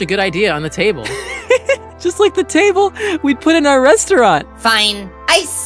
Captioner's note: laughs